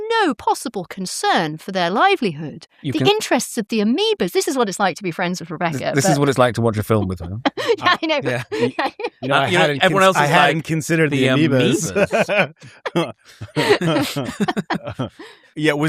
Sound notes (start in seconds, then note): 5.7 laughter